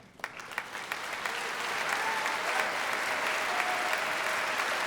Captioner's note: applause; cheering